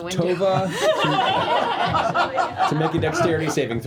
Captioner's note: laughter